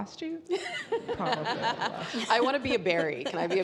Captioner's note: all laughing